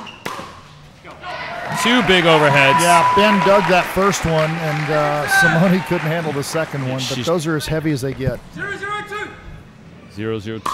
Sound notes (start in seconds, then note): 1.2 audience cheering